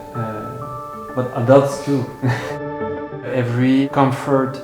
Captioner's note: laughs